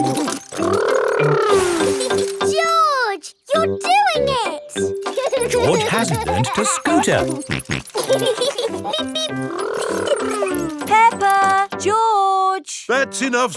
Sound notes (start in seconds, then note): 0.0 laughs; 5.2 george laughing; 8.4 both laughing